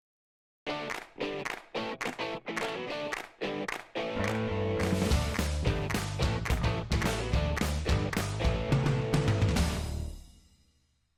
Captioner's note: claps